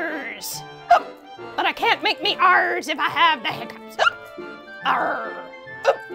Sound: hiccups; hiccups

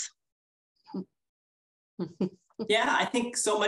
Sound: laughs

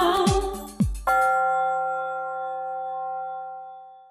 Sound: bell rings

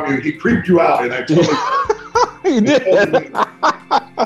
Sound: laughs

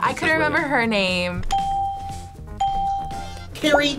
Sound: ding

